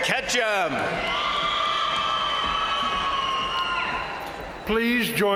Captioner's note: crowd cheering; crowd applauding